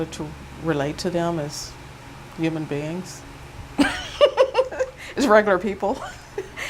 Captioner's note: chuckle